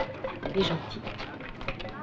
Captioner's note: French spoken audio